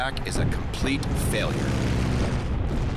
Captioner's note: engine roaring; cannon fire